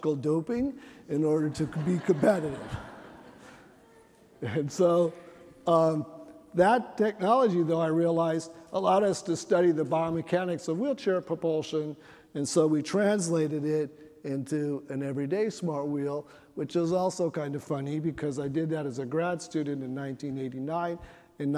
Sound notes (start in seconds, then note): 1.4 chuckling